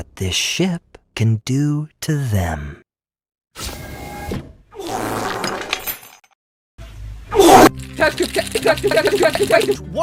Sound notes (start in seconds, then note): 4.8 brapp